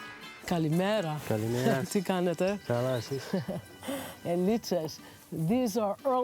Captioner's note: speaking in greek